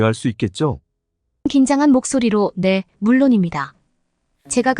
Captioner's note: in a nervous voice